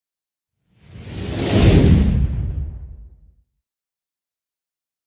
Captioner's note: loud whoosh